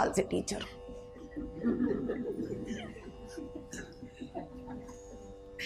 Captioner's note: audience laughs